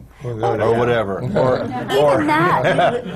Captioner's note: laughter